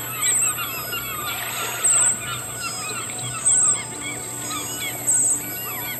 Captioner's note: wilderness soundscape